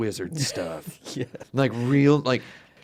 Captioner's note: laughs